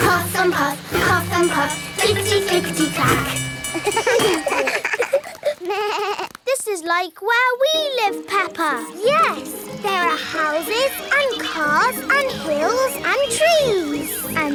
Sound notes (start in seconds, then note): 3.8 all laugh